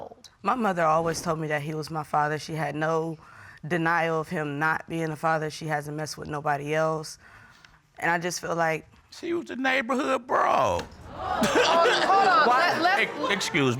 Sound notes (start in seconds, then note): 11.0 audience exclaims; 11.1 laughs